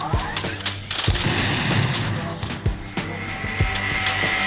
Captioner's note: bang